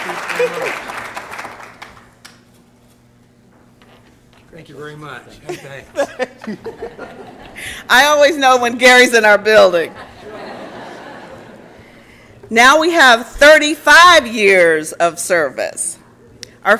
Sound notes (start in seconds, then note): 0.0 applause and Cheering; 5.4 laughter